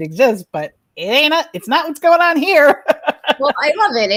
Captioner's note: laughs